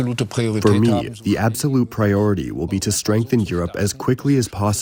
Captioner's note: through translator